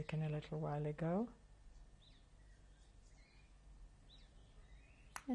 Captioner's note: pauses for 3 seconds